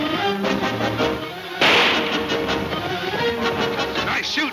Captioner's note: gun fires